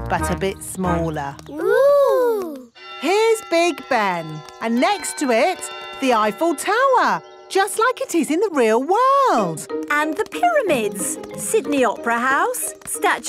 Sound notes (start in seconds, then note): 2.8 clock chimes